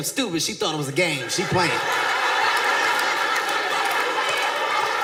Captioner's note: audience laughs